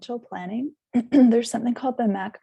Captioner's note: clears throat